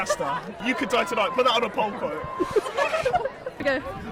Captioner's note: laughter